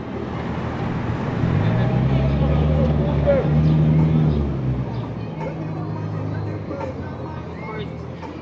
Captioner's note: cars driving